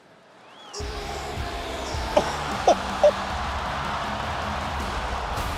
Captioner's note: laugh